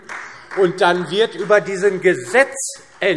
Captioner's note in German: Vereinzelter Beifall DIE LINKE und Freie Demokraten